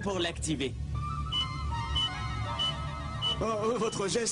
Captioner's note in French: bip bip bip bip